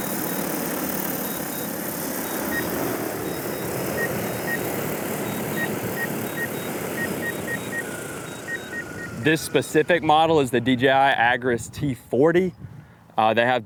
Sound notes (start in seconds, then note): 0.9 controller beeping